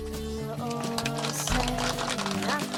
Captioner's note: audience applauding